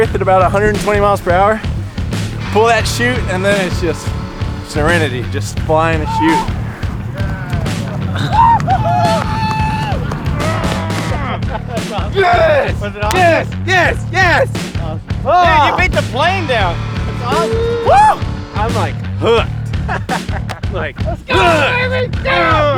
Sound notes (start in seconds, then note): 9.2 furious cheering